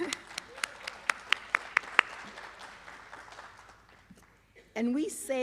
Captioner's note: applause